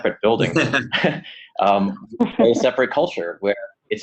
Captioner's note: laughing